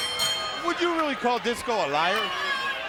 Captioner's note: bell ringing